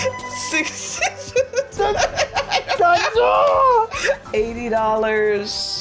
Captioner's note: laughing